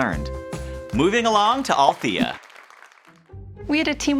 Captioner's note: crowd clapping